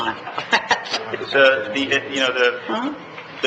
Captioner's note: laughing